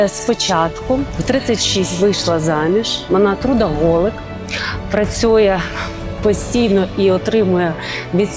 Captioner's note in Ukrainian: сопіння